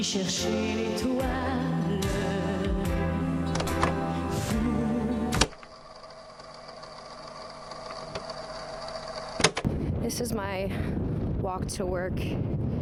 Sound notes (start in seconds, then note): 2.6 casette tape clicks and whirs